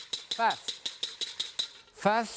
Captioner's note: whisk tapping